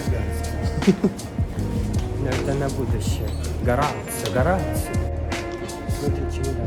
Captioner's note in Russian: пробует говорить на итальянском языке